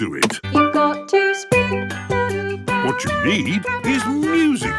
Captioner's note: radio